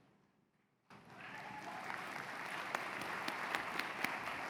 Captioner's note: cheers and applause